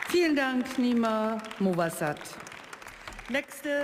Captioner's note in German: Beifall